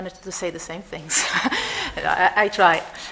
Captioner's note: laughter